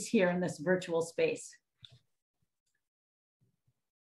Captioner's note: silence